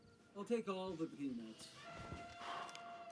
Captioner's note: elephant trumpets